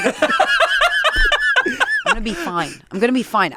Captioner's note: laugh